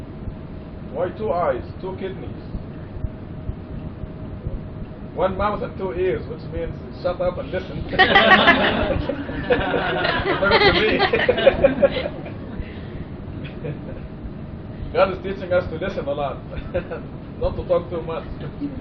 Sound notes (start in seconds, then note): 7.9 laughter; 12.3 laughingly